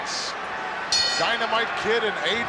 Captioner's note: bell rings